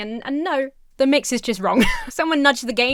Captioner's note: Emma chuckles